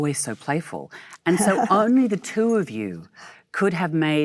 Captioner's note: Michelle laughs